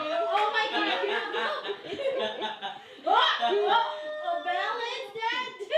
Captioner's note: laughing